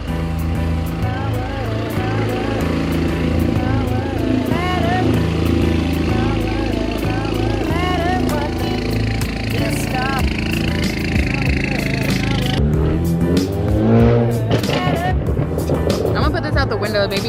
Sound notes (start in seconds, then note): 0.2 upbeat music; 2.6 car engine revving